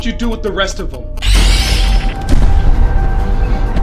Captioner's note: tense music; screeching